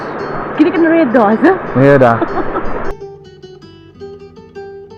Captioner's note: laugh